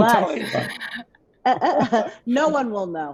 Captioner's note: all laughing